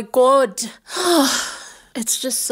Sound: sighs

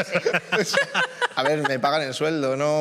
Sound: some laugh

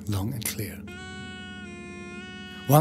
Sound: horn sounding

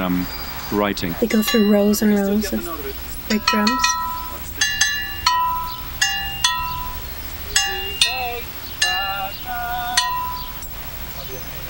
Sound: metal clinking noise

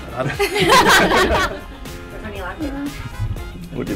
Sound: laughter

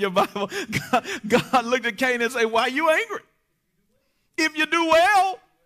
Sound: chuckles

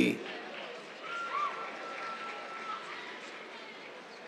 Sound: cheers, applause

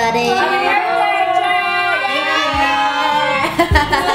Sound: cheering

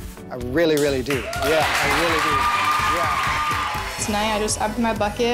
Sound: clapping and cheering

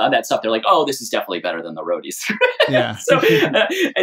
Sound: laughter

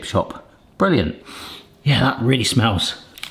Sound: sniffing

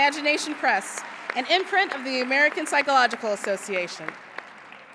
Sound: applause

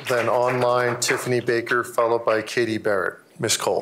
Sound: applause

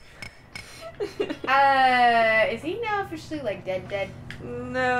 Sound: laughter

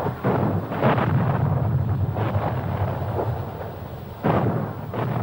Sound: canons thundering

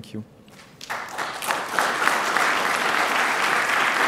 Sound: applause

